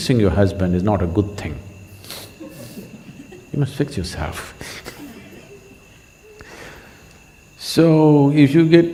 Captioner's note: laughs